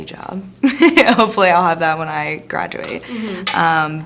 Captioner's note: laughs